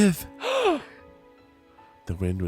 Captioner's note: gasps